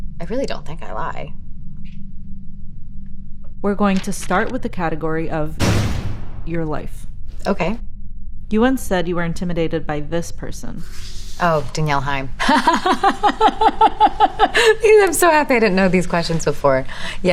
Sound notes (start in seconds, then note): 12.4 laughing